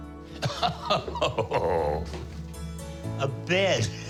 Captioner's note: laughs